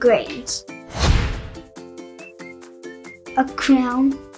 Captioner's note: screen whooshes